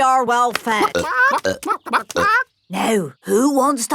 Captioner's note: clucking